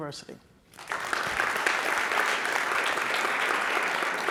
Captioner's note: audience claps